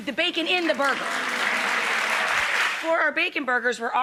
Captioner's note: audience applauds